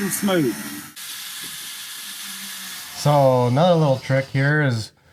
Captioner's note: grinder whirring